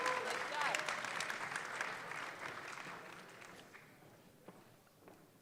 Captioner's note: audience clapping